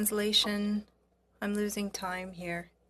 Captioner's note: speaking French